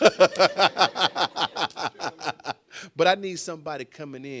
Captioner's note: laughing